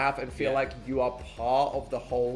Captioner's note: none